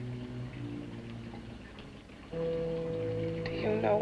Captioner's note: ominous music; liquids bubbling